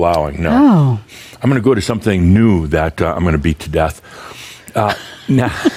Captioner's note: they chuckle